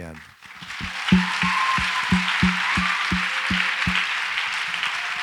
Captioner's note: audience applauds and cheers